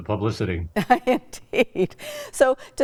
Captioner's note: laughs